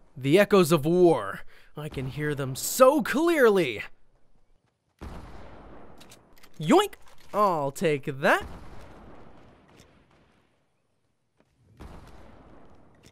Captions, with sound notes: The echoes of war... I can hear them so clearly. (explosions in the distance) Yoink! I'll take that. (explosions in the distance)